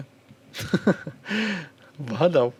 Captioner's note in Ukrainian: сміх